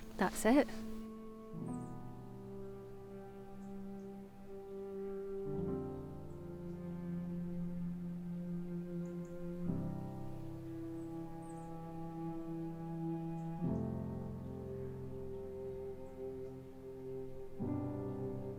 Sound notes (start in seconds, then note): 0.0 birds chirping; 6.8 calm music